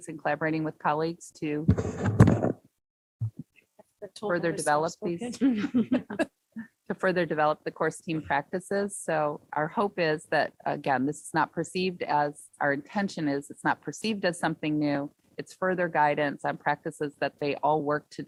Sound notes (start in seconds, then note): 5.1 chuckles